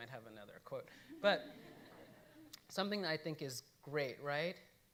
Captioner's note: audience laughing